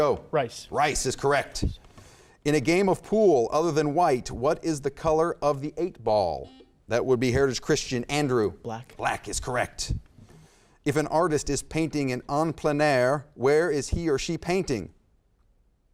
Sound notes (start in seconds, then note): 6.6 buzzer beeps